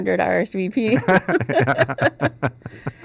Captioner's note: laughter